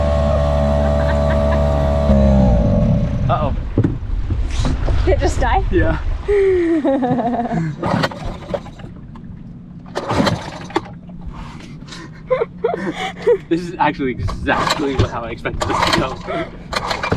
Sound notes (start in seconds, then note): 3.1 engine cutting off; 9.8 cord ripping and engine sputtering; 11.9 laughing